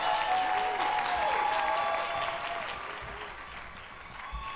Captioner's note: cheers and applause